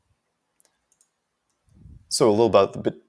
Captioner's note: mouse clicking